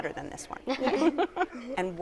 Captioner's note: laughter